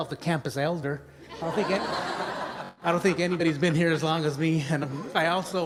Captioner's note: laughter